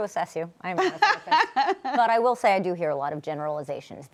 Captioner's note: laughs